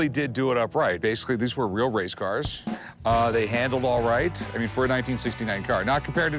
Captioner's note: none